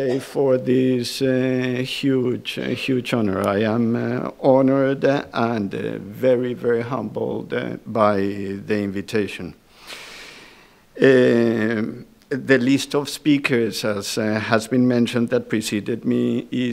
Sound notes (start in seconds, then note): none